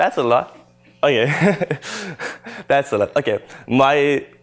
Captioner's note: laughter